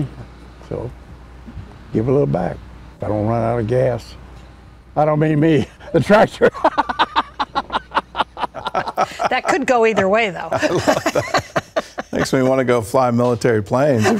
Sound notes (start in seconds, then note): 8.0 laughter